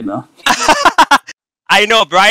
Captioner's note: laughing